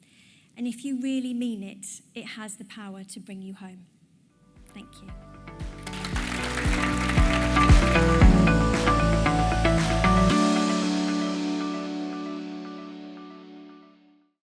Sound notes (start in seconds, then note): 5.0 bright music; 5.7 audience applauding